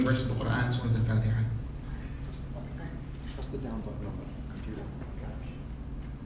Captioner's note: speaking in foreign language